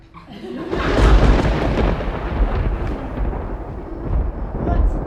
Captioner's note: thunder and lightning